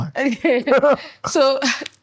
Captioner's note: laughter